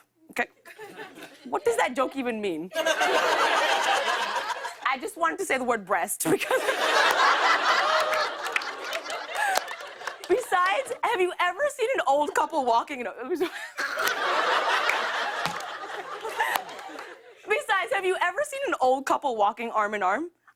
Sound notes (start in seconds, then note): 2.7 laughter; 6.3 laughter; 13.4 laughter